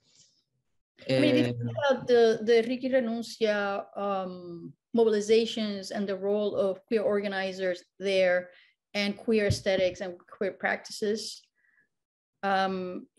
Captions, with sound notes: - (foreign language) mobilizations and the role of queer organizers there and queer aesthetics and queer practices,